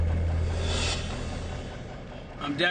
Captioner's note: idling engine